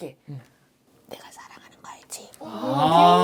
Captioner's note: whispers